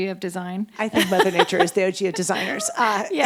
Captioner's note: laughs